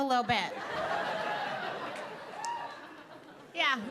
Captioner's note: audience laughing